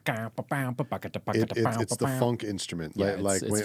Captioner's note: imitates flute music